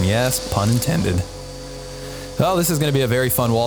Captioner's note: vacuum cleaner buzzing